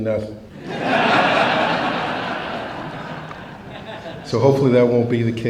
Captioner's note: laughter